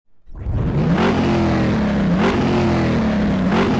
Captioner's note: engine revving